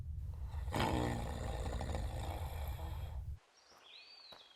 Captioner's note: snoring